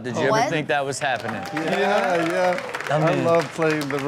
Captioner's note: audience cheers